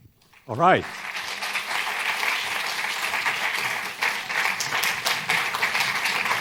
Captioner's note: applause